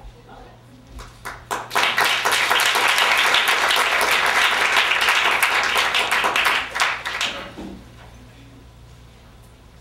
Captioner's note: applause